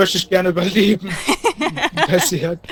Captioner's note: laughing